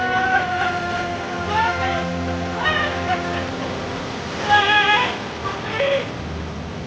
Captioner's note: majestic music; cheering